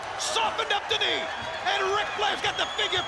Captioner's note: crowd clamoring